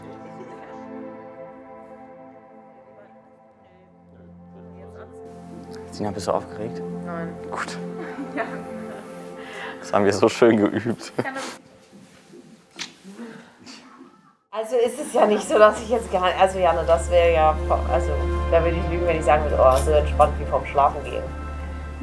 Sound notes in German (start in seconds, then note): 0.3 Ruhige Klänge; 8.0 lacht